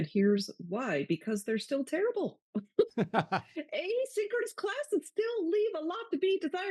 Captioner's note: both laugh